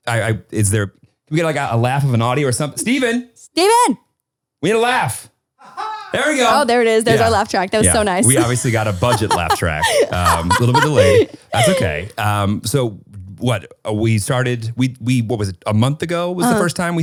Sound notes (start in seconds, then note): 6.0 light laughing; 10.3 laughing